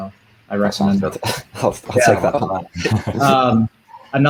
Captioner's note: laughing